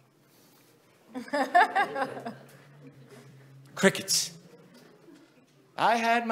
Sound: audience laughing

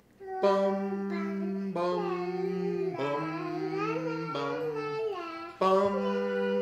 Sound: group humming

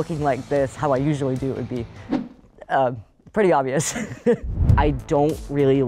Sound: chuckles

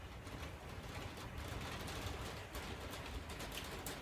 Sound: rain and hail continue; hail picks up, rain continues; hail gets quieter, rain stays constant

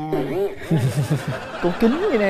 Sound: chuckles

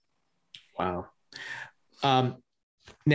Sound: none

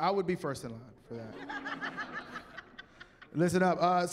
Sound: laughter

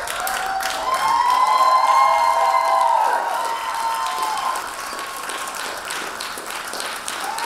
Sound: audience cheering; audience applauding

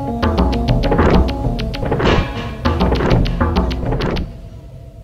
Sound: wood Clanking

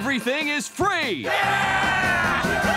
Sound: cheering

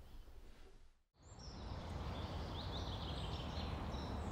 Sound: birds singing

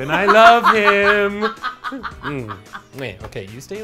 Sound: laughs

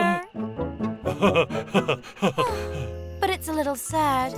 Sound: laughs

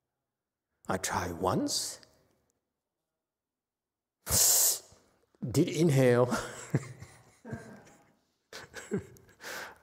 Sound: laughs

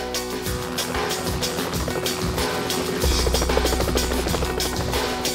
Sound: helicopter flying

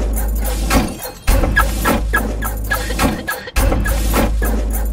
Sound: rhythmic thudding, jingling, scraping; alarm chirping

